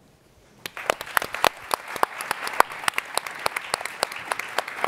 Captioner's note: applauding